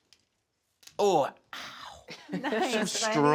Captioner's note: laughs